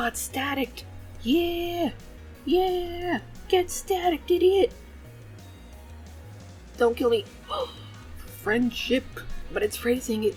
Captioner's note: gasps